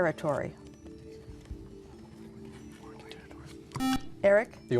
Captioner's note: whispering